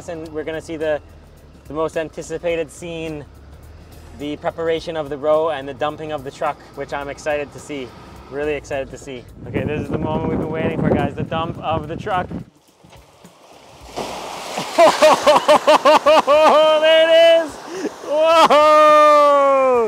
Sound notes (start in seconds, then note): 12.5 water sloshing; 12.7 fish thudding; 14.6 laughs